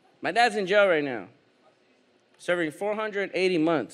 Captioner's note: none